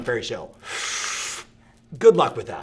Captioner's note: inhales as if smoking